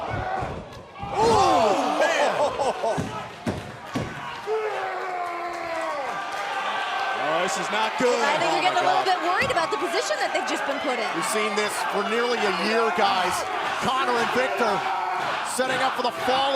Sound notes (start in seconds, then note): 7.1 shouting; 9.2 cheers & applause